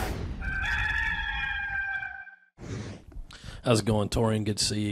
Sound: rooster crowing

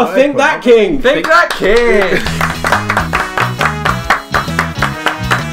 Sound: all clapping

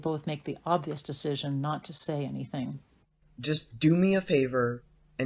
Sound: quietly to Davi

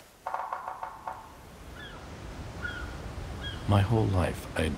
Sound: sea bird cawing

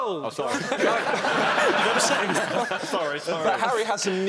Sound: laughing

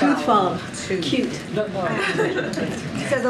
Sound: laughter

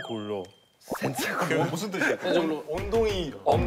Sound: burst out laughing

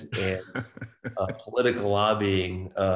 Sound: laughs

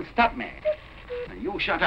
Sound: cuckoo clock sounding

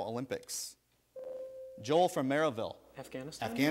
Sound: ding

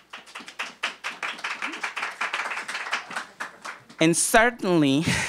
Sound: applause

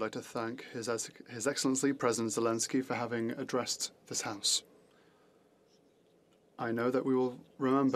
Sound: speaking French

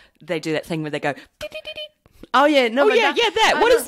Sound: imitates an oboist

